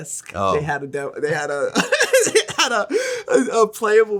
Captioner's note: laughs